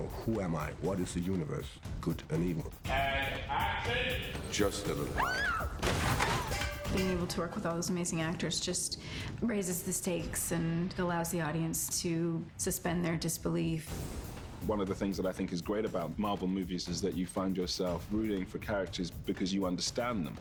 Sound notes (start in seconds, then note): 5.1 screams; 5.8 clattering